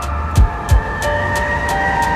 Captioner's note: tires screeching